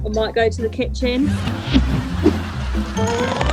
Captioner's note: crowd laughs